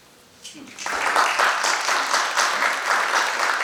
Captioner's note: applause